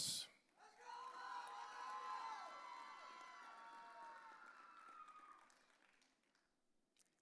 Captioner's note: audience cheering